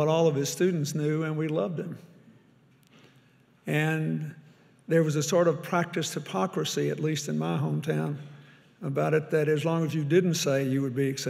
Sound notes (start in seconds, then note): none